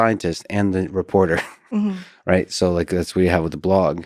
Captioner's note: laughs